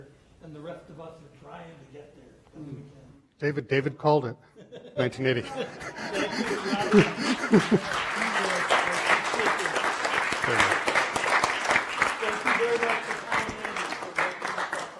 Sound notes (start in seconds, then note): 4.5 laughter; 5.8 applause